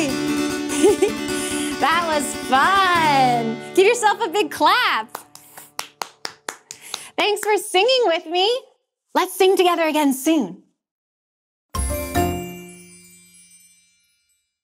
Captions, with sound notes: That was fun. Give yourself a big clap. (hands clapping) Thanks for singing with me. Let's sing together again soon. (playful music)